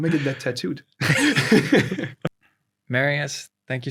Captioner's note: both laugh again